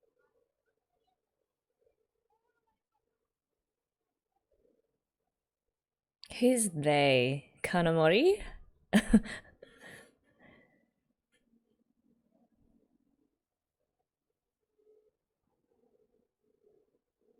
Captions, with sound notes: Who's 'they'? Kanamori? [chuckles]